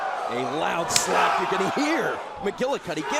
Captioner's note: crowd cheering